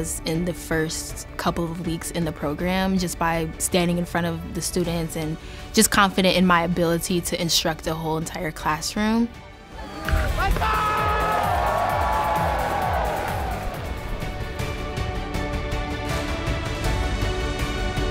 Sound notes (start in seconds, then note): 9.8 attendees cheering; 13.9 uplifting music continues